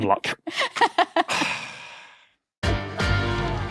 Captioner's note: laughs; sighs